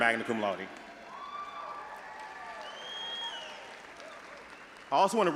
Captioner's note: audience applauding and cheering